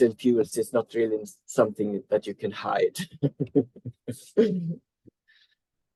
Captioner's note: chuckles